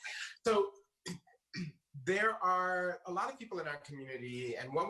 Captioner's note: clears throat